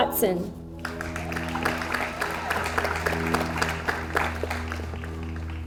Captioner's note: audience applauds